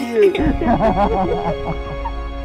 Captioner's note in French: rires